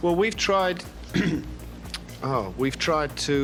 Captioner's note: clears throat